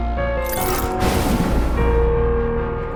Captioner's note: thunder